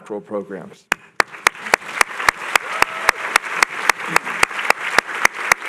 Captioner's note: applause